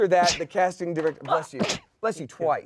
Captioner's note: sneezes